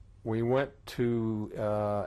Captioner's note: none